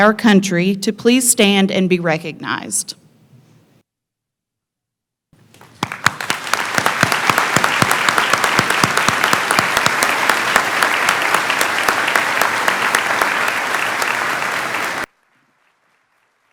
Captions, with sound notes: country to please stand and be recognized. [clapping]